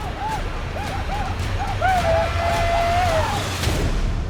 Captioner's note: yelling